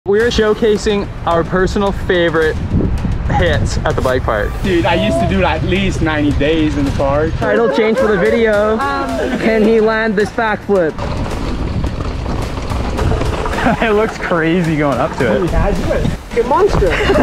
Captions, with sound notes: - We're showcasing our personal favorite hits at the bike park. - Dude, I used to do at least 90 days in the park. - Title change for the video Can he land this back flip? (tires rumbling) - It looks crazy going up to it. - Can you imagine it? A monster.